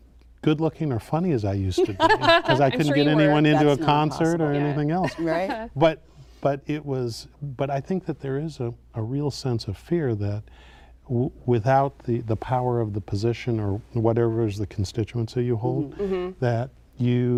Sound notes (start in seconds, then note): 1.8 laughing